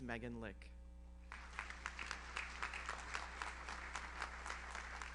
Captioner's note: audience applauds